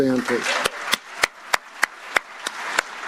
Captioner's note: applause